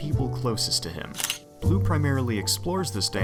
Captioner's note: camera shutter